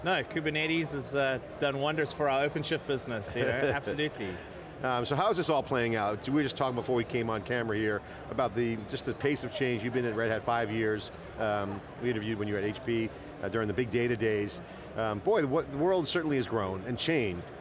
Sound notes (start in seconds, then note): 3.4 laughter